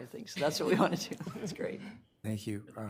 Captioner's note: all laughing